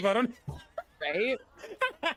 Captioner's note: laughter